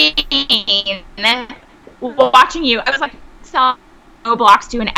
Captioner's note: sound distorts